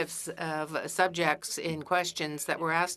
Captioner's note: speaking French